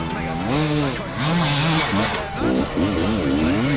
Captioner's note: engine revving